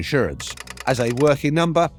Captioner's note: typewriter clacking